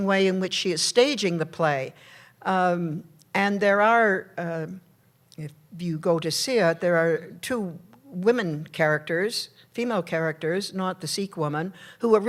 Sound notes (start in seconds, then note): none